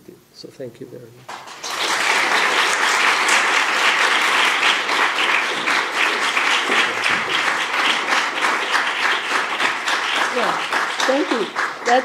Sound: applause

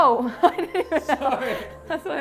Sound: laughs

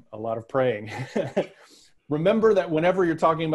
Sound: laughs

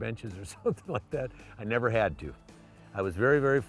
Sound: laugh

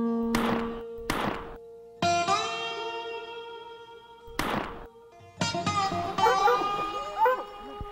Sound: gunshots

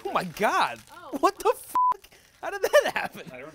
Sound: beeping

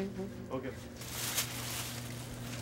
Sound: none

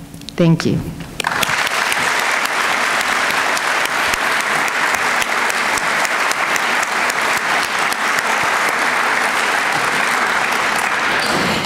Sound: applause

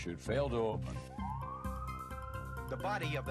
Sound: siren wailing

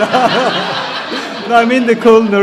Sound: laughs; audience laughs

